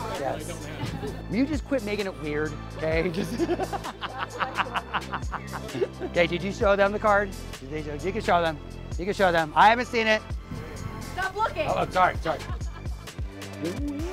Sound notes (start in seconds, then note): 3.1 laughs